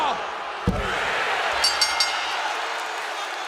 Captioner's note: bell ringing